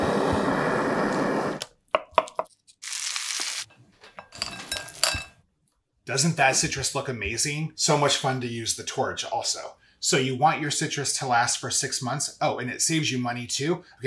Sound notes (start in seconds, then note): 0.0 torch whooshing; 1.9 knife tapping; 2.7 butter sizzling; 4.3 pistachios rattling